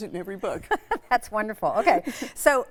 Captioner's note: laughing